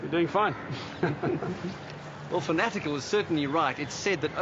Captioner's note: chuckles